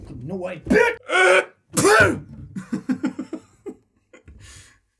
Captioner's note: sneeze; laughter